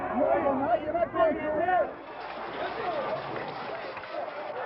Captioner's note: all shouting